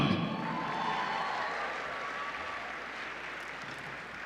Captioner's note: applause